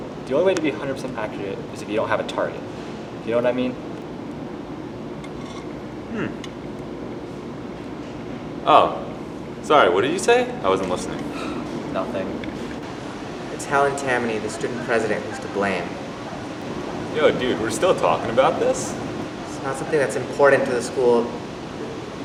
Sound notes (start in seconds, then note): 11.3 sighs